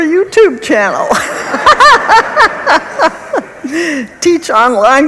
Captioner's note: laughs